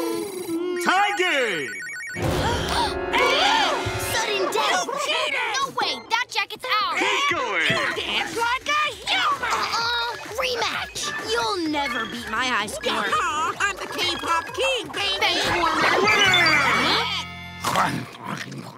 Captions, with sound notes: Tied game! [gasping] - Sudden death! - You cheated! No way! That jacket's ours! - Keep going. - You dance like a human! Uh-uh. Rematch! You'll never beat my high score. I'm the K-pop King, baby! - Benchwarmer. - Winner! [growling]